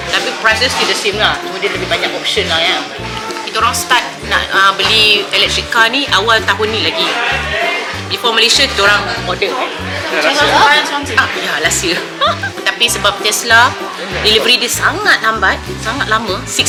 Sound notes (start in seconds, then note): 9.9 speaking German